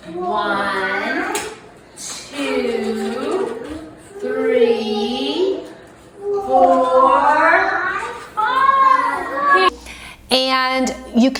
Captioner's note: children counting along